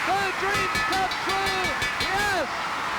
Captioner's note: bell ringing